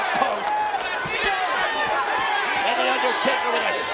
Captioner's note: crowd chattering